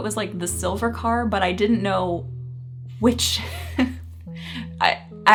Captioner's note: chuckling